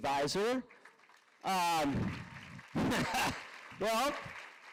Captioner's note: applause